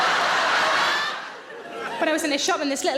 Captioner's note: audience laughs